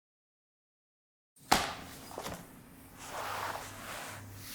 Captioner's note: leather slaps